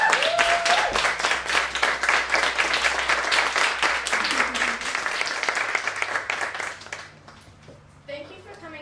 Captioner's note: applause